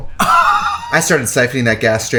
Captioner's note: laughs